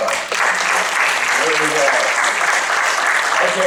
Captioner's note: applause